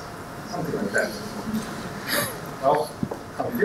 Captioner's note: laughter